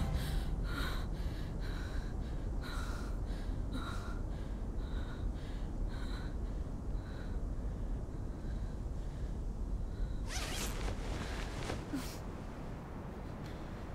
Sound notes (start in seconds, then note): 0.0 Googly breathing heavily; 10.2 tent zip opening